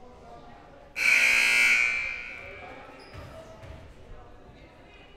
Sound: loud buzzer blaring

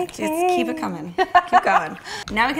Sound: laughs

